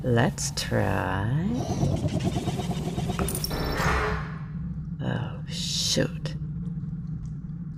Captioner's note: a mechanical whirrr - and a harsh Ka-CHUNK